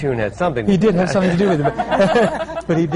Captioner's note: laughter